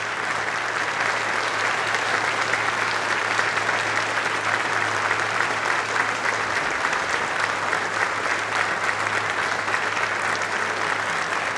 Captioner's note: applause